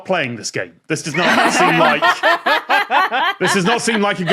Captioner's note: guests laugh uproariously